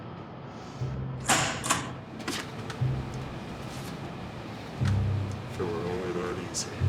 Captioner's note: dramatic music; time clock punching